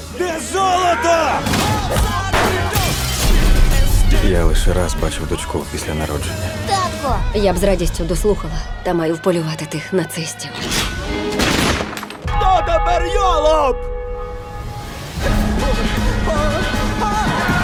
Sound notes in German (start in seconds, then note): 12.2 Glocke ertönt; 15.2 Musik steigert sich